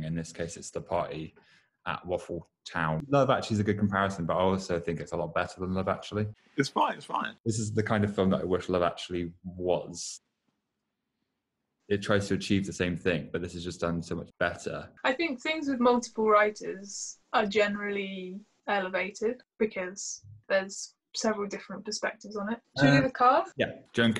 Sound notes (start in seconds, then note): 9.9 silence